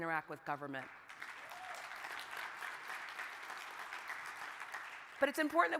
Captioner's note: crowd applauding